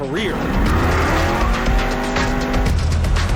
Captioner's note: engines rev